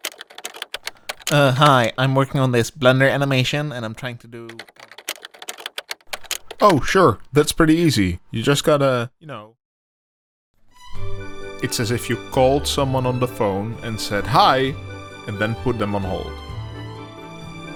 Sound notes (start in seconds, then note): 0.0 typing; 4.4 typing